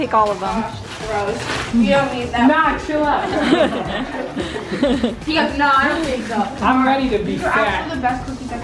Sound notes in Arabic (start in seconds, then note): 5.7 يضحك